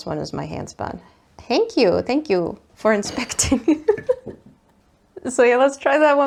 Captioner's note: laughs